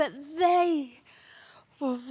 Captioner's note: heavy breathing